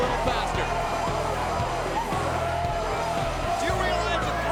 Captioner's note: crowd cheering